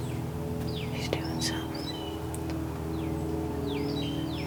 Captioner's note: whispering